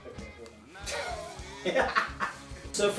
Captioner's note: laughs